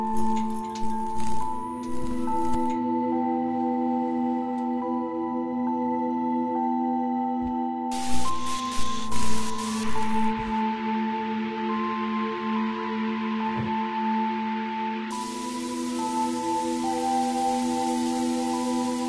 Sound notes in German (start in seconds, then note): 0.1 Knistern von hinten; 11.2 Rauschen; 15.1 Rauschen; 17.5 Düstere Musik